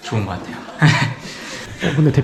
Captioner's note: laughs